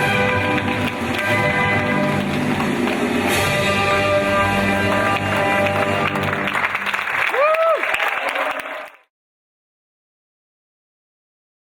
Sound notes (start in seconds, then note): 1.0 audience clapping; 7.2 audience cheering